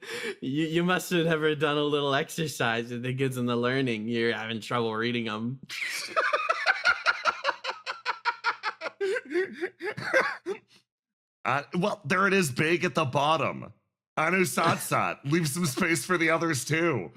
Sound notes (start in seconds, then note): 5.8 laugh